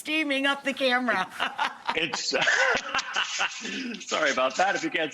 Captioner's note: Rachael Ray and the chef laugh